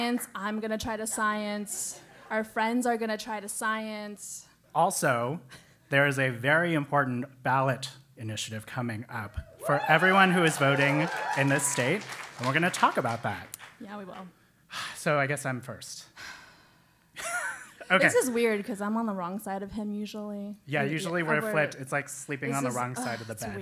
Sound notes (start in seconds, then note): 0.0 applause; 16.9 laugh